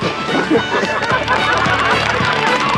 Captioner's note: laughter & applause